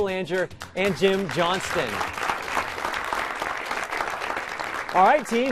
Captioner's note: applause